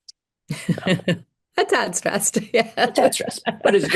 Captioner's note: laughter